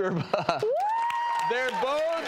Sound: cheers and applause

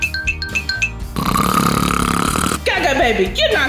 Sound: loud snoring

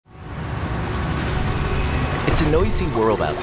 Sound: machinery revving

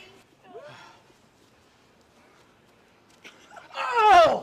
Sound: man groaning

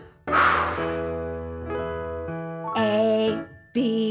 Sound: exhales

